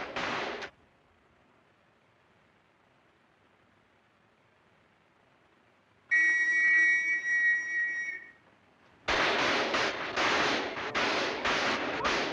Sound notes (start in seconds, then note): 0.0 gunfire and glass shattering; 6.1 whistle blowing; 9.0 intense gunfire